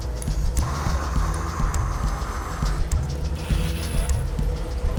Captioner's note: torch hissing